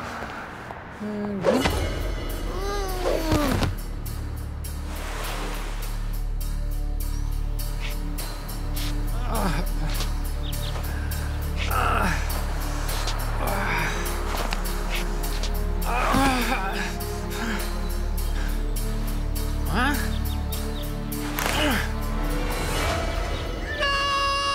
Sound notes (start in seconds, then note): 0.1 groaning; 6.6 groaning; 10.0 birds chirping